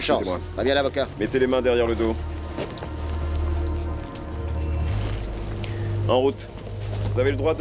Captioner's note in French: parle russe